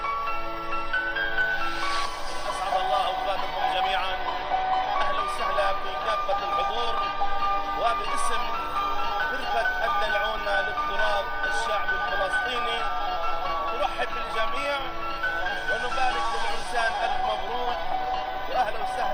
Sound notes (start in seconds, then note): 2.5 speaking Arabic